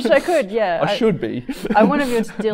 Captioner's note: man chuckling